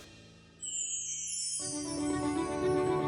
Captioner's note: sparkling sound effect